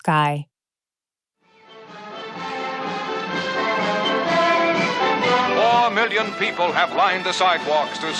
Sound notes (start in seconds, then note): 0.5 soundbite of archived recording